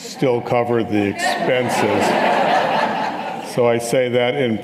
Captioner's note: audience laughing